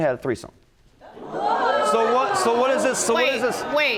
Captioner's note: audience hoots